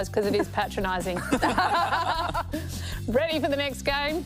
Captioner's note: laughter